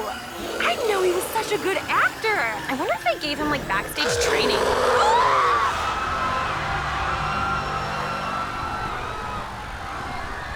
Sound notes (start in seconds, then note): 4.0 screams; 5.5 growling, people screaming